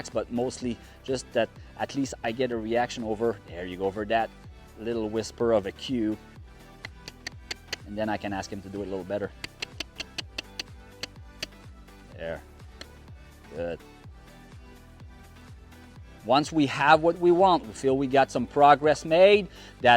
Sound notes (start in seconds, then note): 6.8 clicks tongue; 9.3 clicks tongue